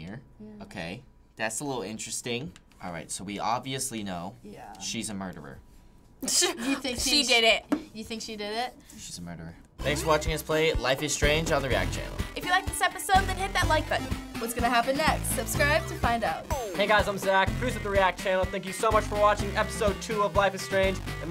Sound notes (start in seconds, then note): 5.9 scoffing